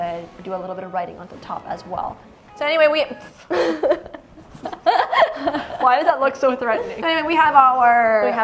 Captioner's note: laughs